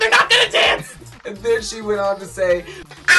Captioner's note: modified voice